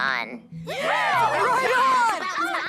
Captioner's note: cheering